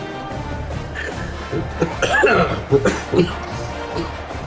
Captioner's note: cough